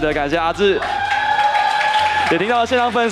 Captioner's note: crowd cheering